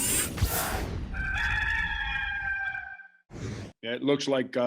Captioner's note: cock crows